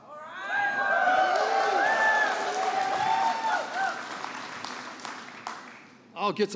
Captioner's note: applause